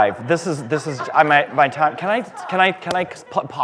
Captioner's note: laughter